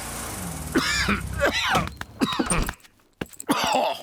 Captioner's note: coughs